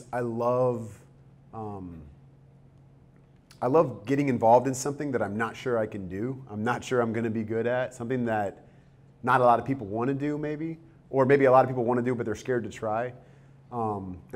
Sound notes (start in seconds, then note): none